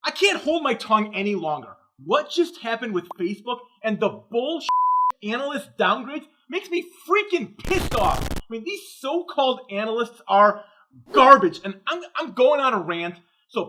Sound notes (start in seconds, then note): 4.7 beep